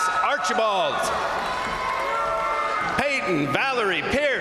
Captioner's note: crowd applauding; crowd cheering